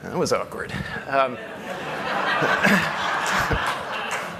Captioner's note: laughter